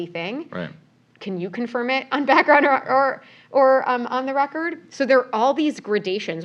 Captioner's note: laugh